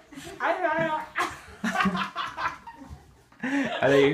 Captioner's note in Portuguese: risos